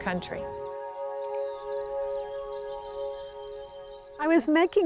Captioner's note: birds chirping; gentle music